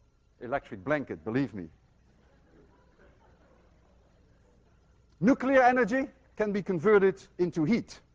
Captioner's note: students chuckle